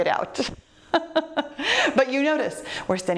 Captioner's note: laughs